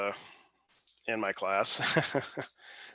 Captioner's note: laughs